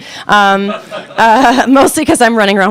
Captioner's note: audience laughing